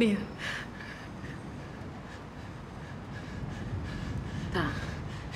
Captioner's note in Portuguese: valentina respirando tensa